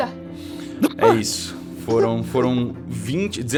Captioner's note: Calango giggles